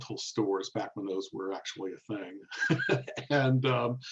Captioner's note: laughs